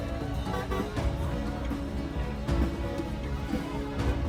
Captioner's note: horn honking; dramatic music